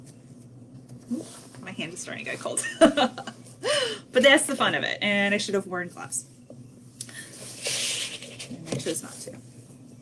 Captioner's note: chuckles